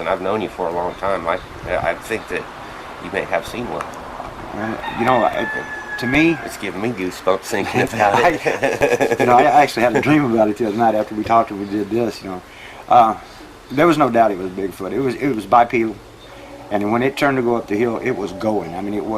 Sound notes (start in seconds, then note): 7.5 chuckles